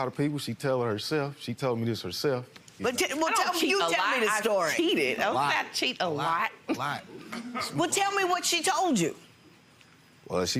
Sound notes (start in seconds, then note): 7.1 chuckles